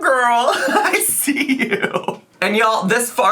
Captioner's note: laughs